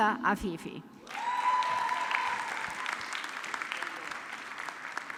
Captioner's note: audience clapping